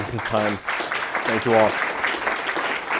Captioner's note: applause